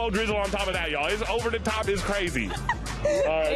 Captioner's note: laughs